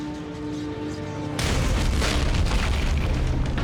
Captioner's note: door explodes